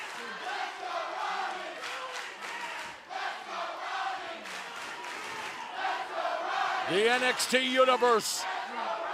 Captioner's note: fans chanting